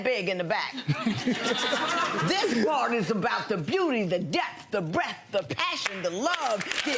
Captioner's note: audience laughs